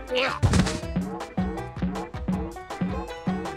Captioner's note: pumpkin boinging